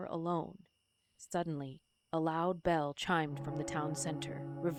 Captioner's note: distant bell